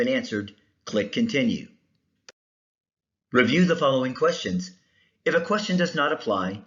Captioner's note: click